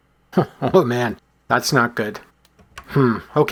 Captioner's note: chuckles